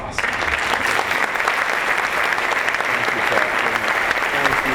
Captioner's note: applause